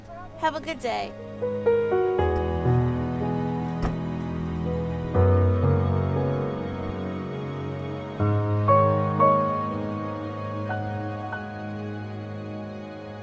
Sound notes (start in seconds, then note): 1.8 dramatic music; 3.6 door slams